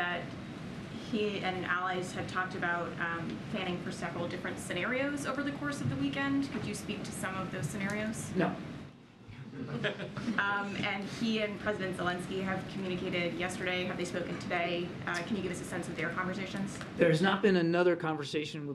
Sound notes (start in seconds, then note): 9.4 laughter